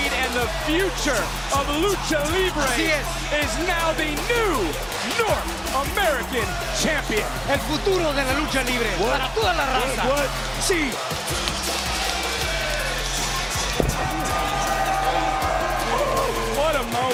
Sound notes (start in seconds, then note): 7.5 spanish language